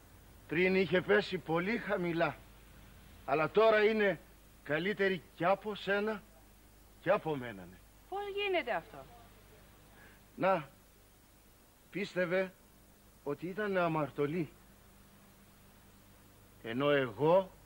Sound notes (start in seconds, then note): none